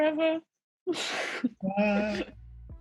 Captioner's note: laughing